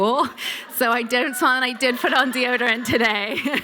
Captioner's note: laughter